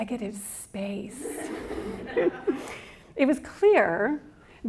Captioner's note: audience laughs